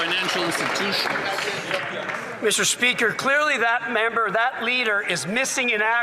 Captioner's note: some Applause